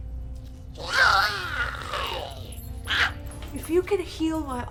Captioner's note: Giree growls